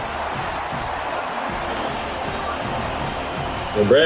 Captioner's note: crowd Noises